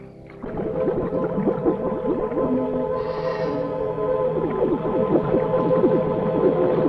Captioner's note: tense music; water bubbling